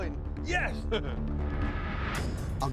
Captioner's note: laughter